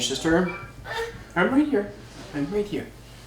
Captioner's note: baby cooing